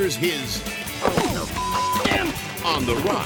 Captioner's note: BASE jumper thuds; beep